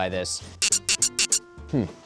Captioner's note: squeaky sounds